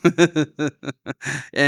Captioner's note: laughing